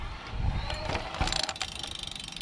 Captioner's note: motor whirring; spokes ticking